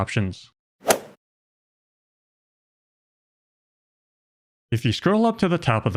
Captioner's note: golf ball hit sound effect